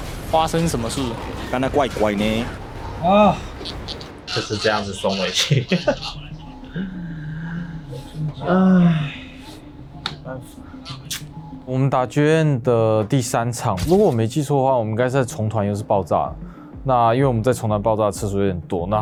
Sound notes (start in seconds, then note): 2.7 sighs; 6.4 bitter laugh; 9.3 sighs